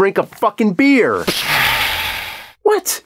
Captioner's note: pshaaa!